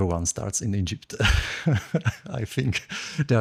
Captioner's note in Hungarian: nevetés